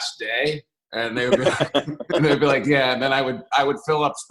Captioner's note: laughter